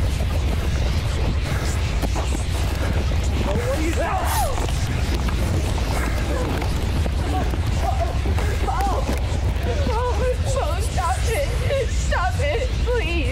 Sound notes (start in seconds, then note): 4.1 screaming; 8.0 whimpering